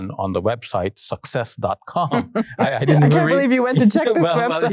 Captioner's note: chuckling